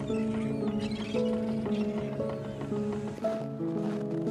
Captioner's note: birds chirping; snow crunching